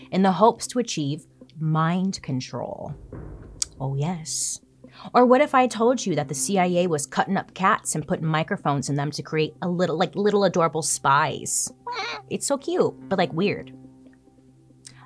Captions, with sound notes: in the hopes to achieve mind control? Oh, yes. Or, what if I told you that the CIA was cutting up cats and putting microphones in them to create like little adorable spies? (meows) It's so cute, but like weird.